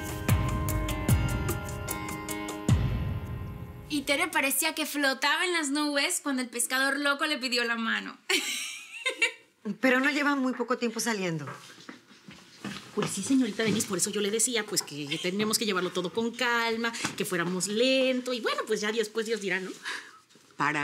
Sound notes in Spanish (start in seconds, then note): 8.3 Risas